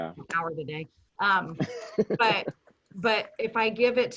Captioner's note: laughing